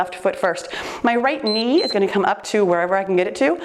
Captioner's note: timer beeps